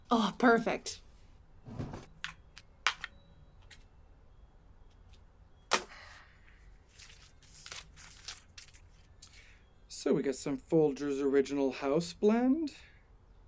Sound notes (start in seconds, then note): 1.6 drawer opening; 2.9 coffee pods crinkling; 6.9 pages flipping